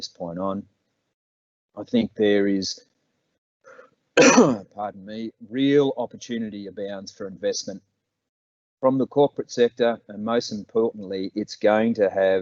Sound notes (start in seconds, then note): 4.2 coughs